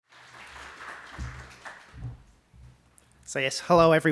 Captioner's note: audience applauding